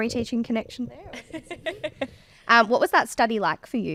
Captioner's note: laughing